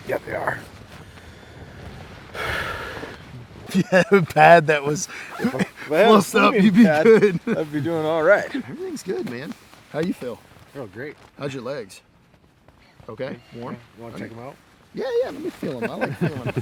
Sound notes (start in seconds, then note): 2.3 loud exhale; 3.6 laughing